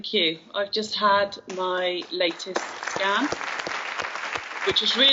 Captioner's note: audience applauds